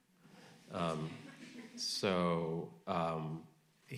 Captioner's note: audience laughing